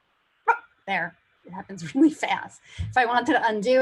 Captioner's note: barking